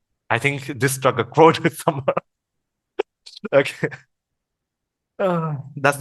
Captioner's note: laughters